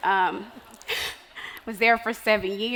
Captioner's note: laughing